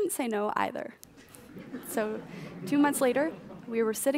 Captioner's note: audience laughs